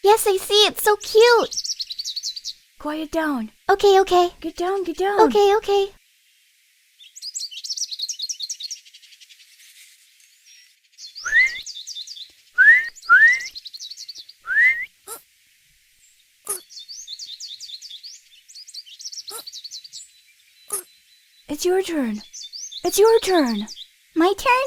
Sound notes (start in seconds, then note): 12.5 Ezrak whistling; 15.2 rabbit gasping